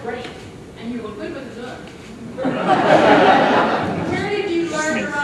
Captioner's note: audience laughs